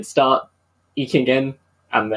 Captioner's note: none